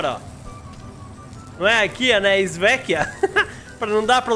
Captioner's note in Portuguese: risos